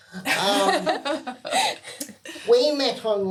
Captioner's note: laughing